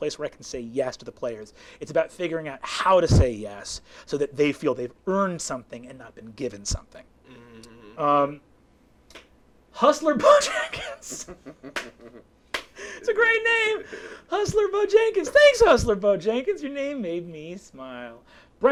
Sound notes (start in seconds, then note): 10.2 laughing